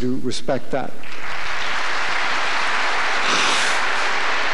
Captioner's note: applause